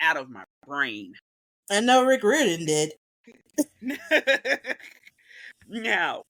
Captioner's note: laughs